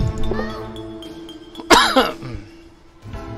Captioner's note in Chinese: 泣不成声